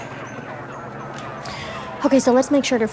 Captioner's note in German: dramatische Musik; Geschwätz über Polizeifunk